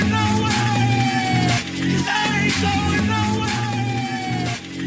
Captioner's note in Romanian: Aplauze